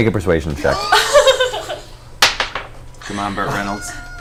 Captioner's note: all laugh